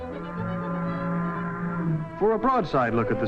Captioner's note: boat horn blaring